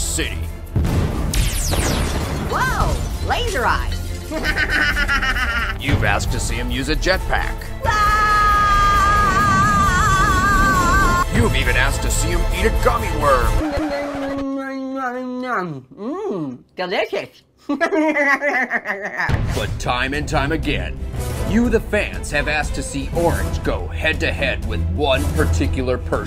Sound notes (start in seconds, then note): 7.8 screaming